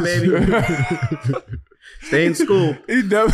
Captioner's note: laughing